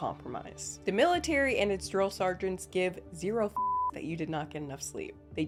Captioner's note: beep